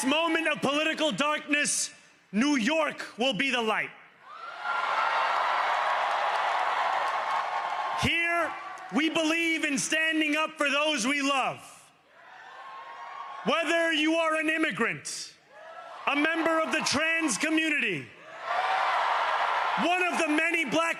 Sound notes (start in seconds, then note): 4.2 cheering; 12.1 cheering